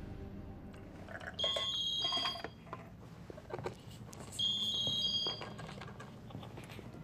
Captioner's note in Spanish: Suena el celular